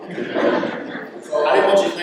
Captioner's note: laughter